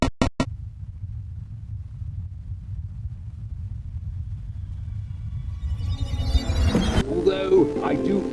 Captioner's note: rumbling continues